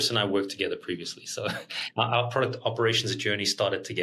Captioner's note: chuckles